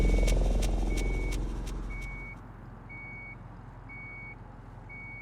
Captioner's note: high pitched beeping; ominous music